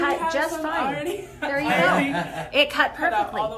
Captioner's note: laughs